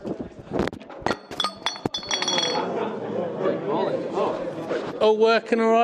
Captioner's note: attendees chatting; glass falls